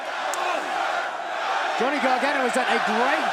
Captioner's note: crowd cheering